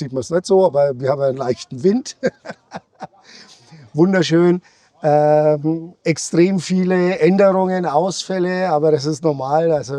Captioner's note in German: gelächter